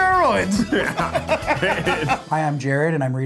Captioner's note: laughing